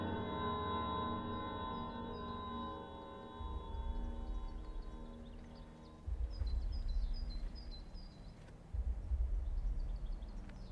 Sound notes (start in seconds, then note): 4.4 birds chirping; 4.4 gentle tense music